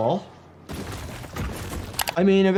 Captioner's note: bricks crash